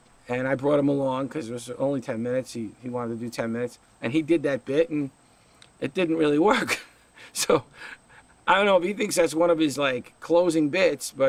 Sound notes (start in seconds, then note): 6.8 laughs